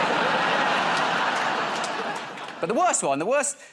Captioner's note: laughter